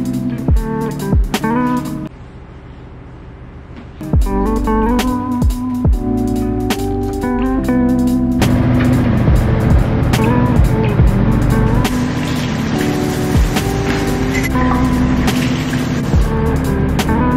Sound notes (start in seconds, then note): 8.4 washer and dryer humming; 12.3 water splashing